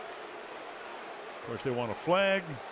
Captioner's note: booing